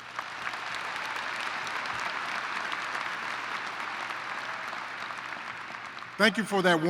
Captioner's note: applause